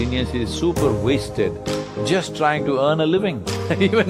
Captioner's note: few laugh